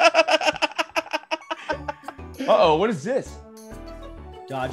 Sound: laugh

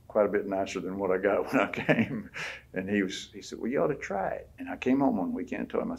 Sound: laughs

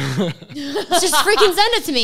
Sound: laughing

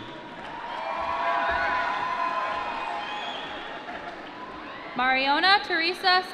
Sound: applause

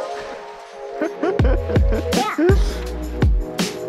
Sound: laughing

